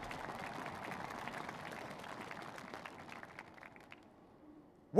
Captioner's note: applause